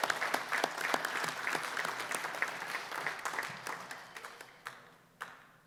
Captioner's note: applause, cheering; applause